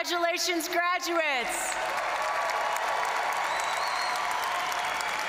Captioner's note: audience cheering and applauding